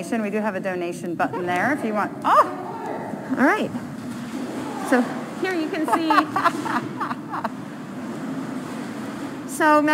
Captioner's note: laughing